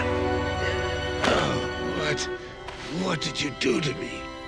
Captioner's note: groaning